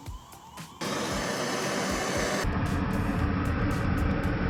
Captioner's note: torch blasting